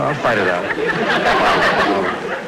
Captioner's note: audience Laughing